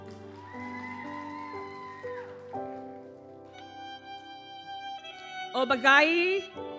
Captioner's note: audience cheers; gentle music continues